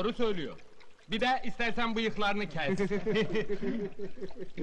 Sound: laughing

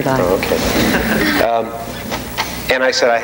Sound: audience laughing

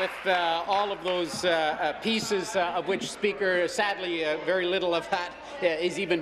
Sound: applause

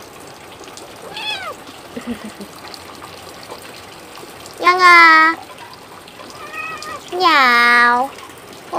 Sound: meow

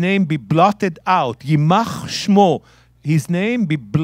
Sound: speaking in Hebrew

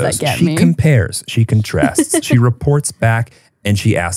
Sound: laughs

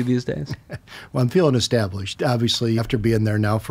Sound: laughs

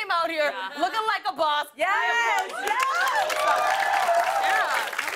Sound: cheers and applause

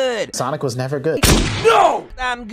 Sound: bang

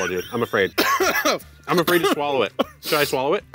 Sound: cough

